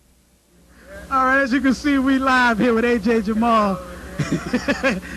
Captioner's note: laughter